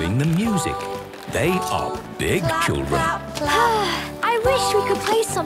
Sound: Belinda sighing

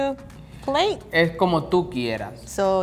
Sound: speaking in foreign language

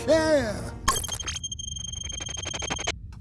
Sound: computer beeps

